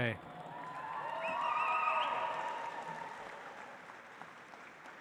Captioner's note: audience applauds